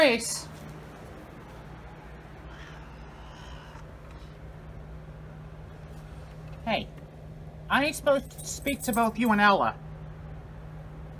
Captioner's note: Caprice yowls